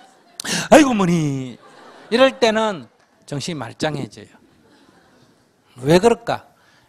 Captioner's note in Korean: 청중 웃음